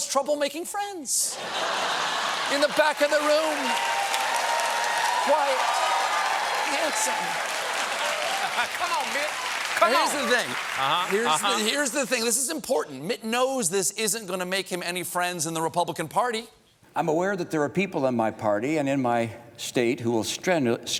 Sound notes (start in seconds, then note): 1.3 laughter; 1.9 applause